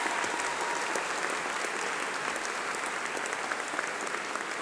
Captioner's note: applause